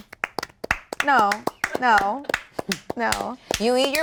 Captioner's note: applause